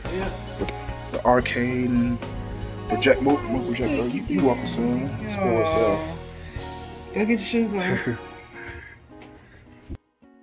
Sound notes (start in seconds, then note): 7.8 chuckles